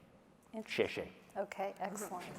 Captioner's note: speaking chinese